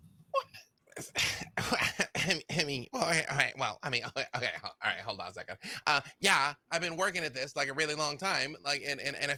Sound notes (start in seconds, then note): 0.7 stammering